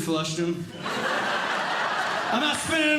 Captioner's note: audience Laughing